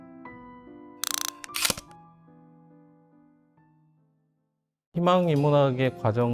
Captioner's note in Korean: 다이얼 소리